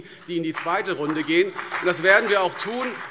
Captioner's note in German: Beifall CDU und BÜNDNIS 90/DIE GRÜNEN